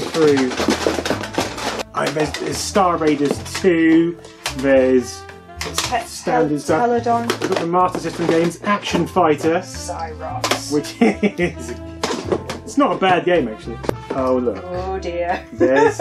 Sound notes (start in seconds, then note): 1.8 clunking